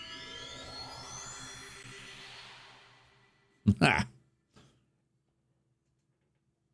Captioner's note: chuckles